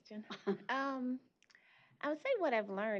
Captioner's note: chuckle